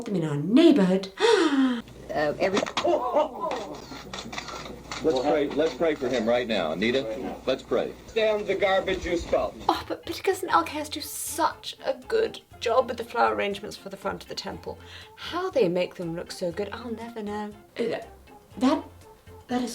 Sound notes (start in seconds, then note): 1.1 gasps; 2.9 foam pie slaps; 3.8 camera shutter clicking